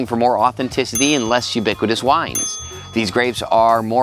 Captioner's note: bell rings